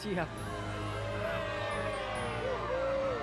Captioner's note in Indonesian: kerumunan bersorak